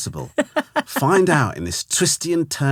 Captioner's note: laughing